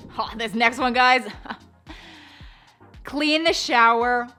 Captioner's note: chuckles